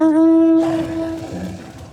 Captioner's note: gun firing